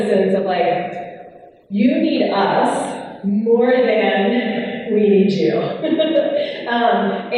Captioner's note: laughs